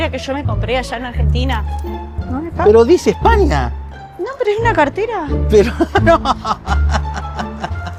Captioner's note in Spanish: risas